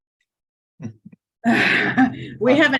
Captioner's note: people chuckling